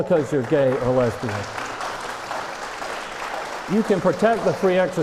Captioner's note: applause